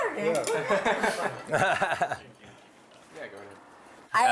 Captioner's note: laughter